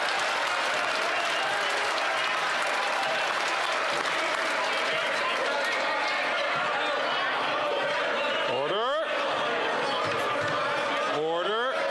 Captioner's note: some Applause